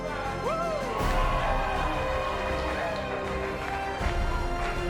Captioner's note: cheering